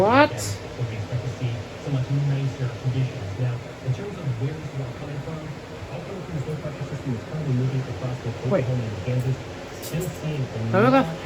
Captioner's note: "21Alive News at 4" plays in background